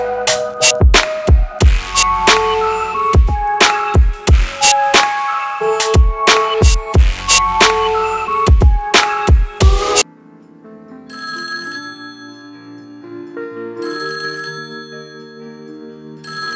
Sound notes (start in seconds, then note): 11.1 telephone ringing